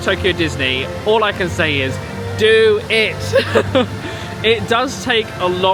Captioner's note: laughs